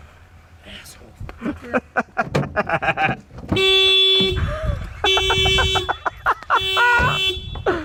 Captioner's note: car alarm blaring; laughing